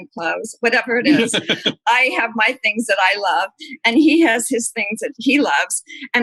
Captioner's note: laughter